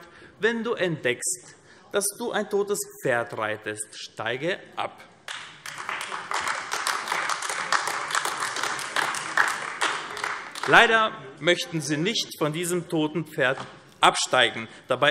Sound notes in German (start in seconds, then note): 5.2 Beifall AfD